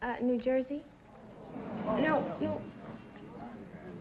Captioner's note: audience groaning